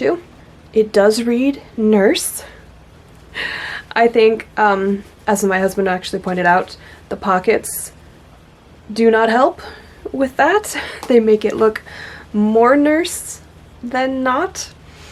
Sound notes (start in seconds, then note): 2.5 laughs